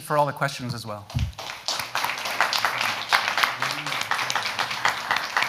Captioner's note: audience applauds